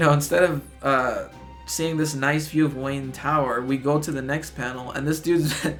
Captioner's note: chuckles